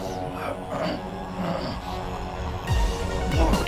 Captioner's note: man grunting; dramatic music